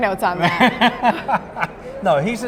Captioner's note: laughing